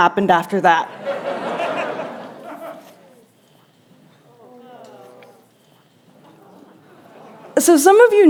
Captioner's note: laughter; groans